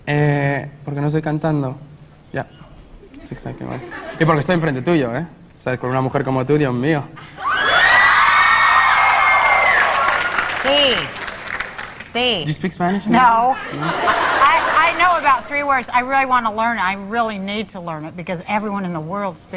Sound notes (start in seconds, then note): 0.4 speaks in Spanish; 7.4 audience cheering; 10.8 speaks in Spanish